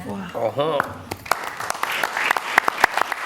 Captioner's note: applause